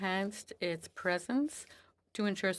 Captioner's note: speaking FRENCH